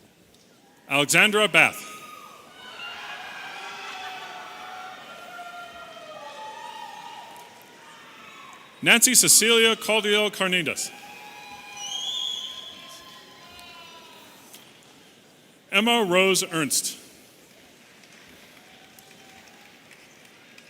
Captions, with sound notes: - Alexandra Bath. (audience cheering) Nancy Cecilia Caudillo Cardenas. (audience cheering and whistling) Emma Rose Ernst. (audience cheering)